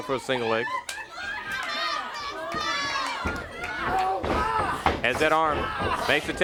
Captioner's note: crowd chatter